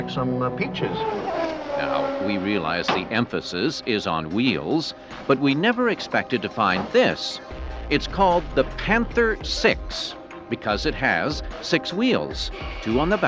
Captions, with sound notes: preserved here, like some peaches. [car zooms] Reporter:Now, we realize the emphasis is on wheels, but we never expected to find this. It's called the Panther 6-- because it has six wheels.